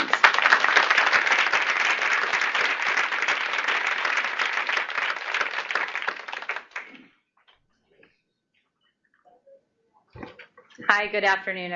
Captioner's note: applause